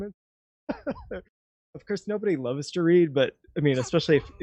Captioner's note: laughs